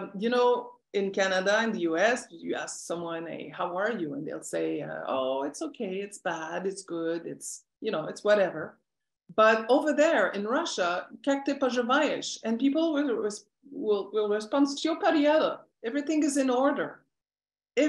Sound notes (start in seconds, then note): 11.2 non-english speech; 14.7 non-english speech